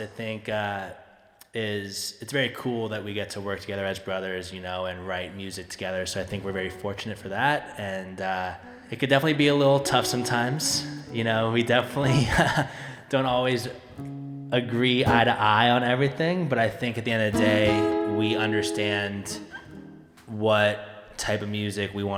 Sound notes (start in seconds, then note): 10.4 light guitar music; 12.0 chuckling